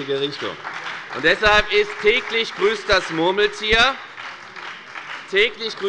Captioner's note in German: Beifall bei der FDP und bei Abgeordneten der SPD